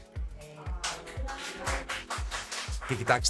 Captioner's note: applause